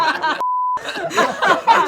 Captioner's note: beep; laughter continues